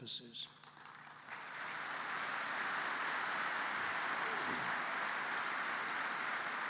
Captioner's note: applause